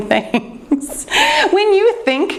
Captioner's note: laughing